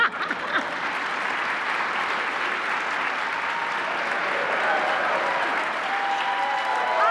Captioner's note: Minnelli and audience laugh; applause, cheers